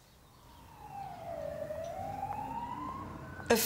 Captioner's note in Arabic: صفارة الإنذار البعيدة